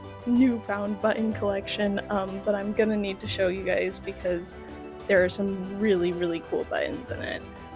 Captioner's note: none